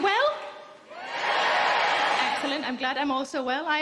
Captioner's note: crowd cheering